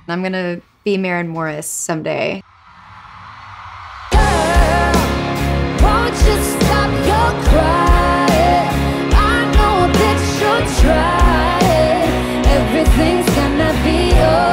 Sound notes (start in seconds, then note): 4.6 crowd cheering